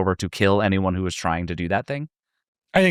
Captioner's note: none